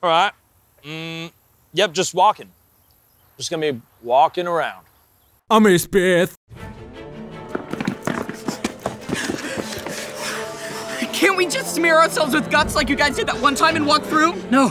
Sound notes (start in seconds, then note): 6.0 panting